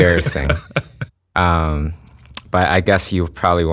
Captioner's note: laughs